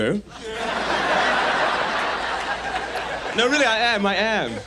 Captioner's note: audience laughs